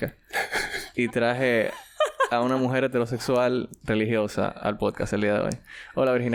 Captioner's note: laughs